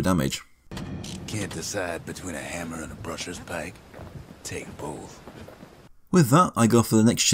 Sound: in-game audio

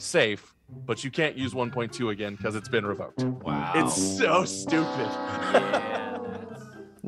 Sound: laughing

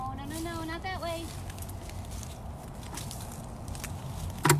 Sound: leaves crackling

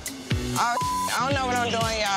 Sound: beep

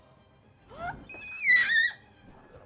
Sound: more Happy Squealing

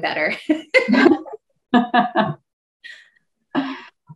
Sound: laughing

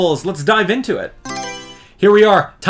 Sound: Mario Selection Sound

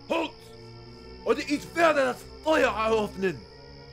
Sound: speaking german

